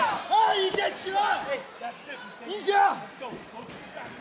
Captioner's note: foreign language